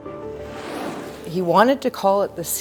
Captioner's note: snowboard edge through snow